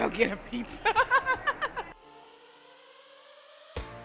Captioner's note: laughs